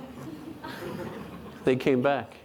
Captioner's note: audience laughing